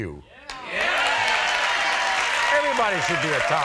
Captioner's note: audience cheers